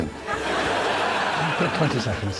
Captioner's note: audience laughing